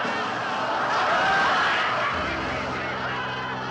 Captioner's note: audience laughing